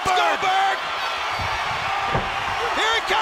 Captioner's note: crowd cheering